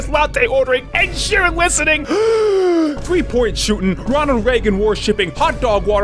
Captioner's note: deep inhale